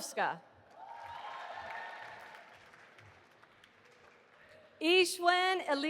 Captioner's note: audience applauding